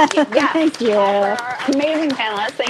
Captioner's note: applause